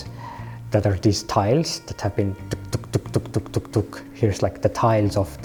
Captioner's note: slotting noise